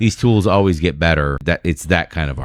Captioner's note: uh